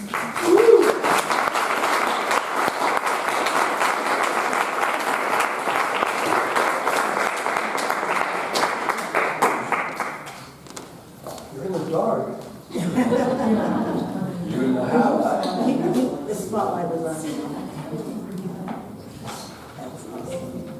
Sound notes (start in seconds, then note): 0.1 audience applauding; 12.7 audience laughing